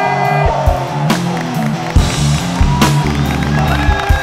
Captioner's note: Everyone Claps